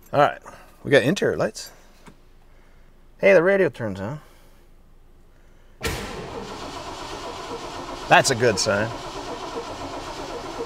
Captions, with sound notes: All right. We've got interior lights. Hey, the radio turns on. (engine revving) That's a good sign.